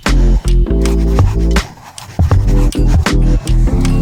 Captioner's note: upbeat music; scribbling